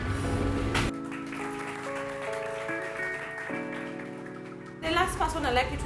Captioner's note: audience clapping